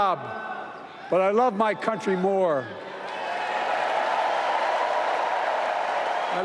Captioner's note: applause